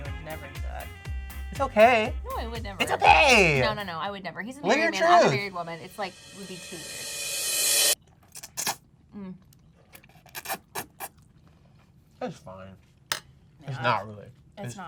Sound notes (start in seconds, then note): 5.5 cymbal drowns out voice; 8.2 slurps food